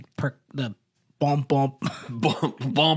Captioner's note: laughs